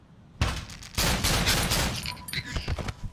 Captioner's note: glock 17 shots